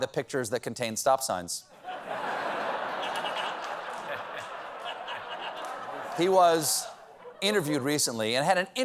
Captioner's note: laughter